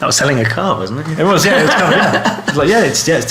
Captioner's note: laughing